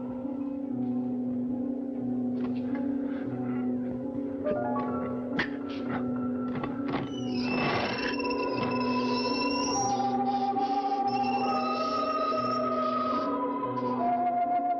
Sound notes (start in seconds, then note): 6.5 door creaking; 10.0 suspenseful orchestral music continues